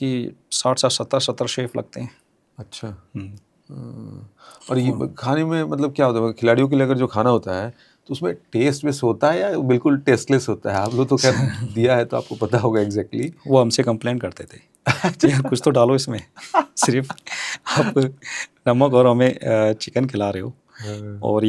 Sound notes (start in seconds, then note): 2.5 sound of clearing throat; 13.2 nasal voice; 16.2 laughs